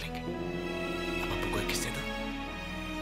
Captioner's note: Phone vibrating